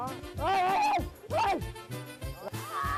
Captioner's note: screaming